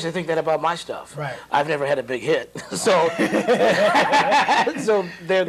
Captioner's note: laughter